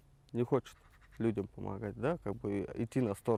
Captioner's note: speaking Russian